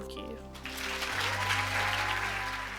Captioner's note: cheers and applause